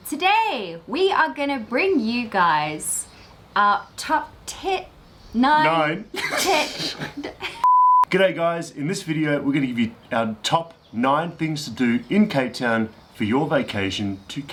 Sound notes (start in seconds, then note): 5.6 laughing